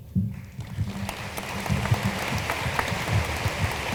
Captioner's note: room applauds